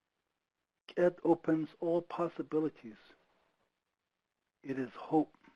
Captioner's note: speaking foreign language